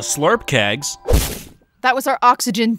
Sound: slurp kegs thudding

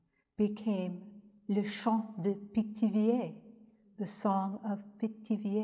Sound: speaks in French

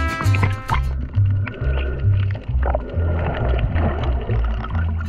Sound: water bubbles

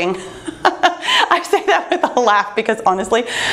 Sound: laughs

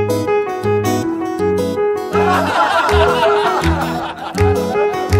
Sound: laughter

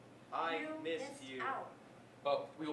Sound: child voice

